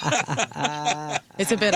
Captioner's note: laughing